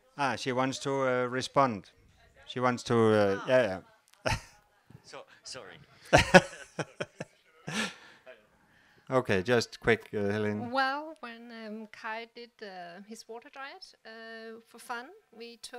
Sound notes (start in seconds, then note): 6.1 laugh